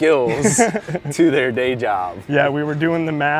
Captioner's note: laughs